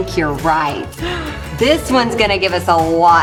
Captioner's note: gasps